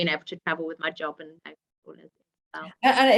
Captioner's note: speaking faintly